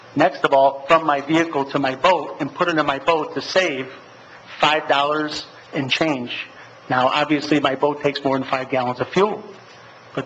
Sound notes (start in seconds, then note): none